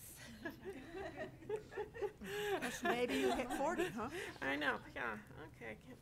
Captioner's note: board members laugh